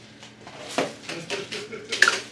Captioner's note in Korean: 빙구웃음